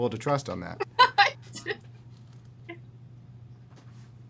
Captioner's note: laughs